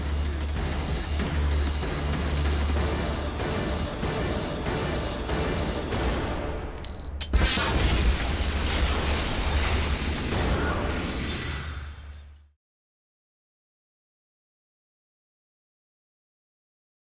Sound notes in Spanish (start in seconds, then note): 9.5 Disparo; 10.4 Explosión